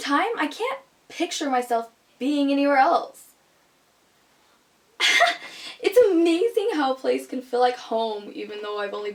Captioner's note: laughs